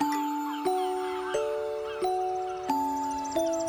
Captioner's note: Trinos de aves